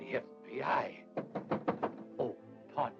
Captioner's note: knocking on door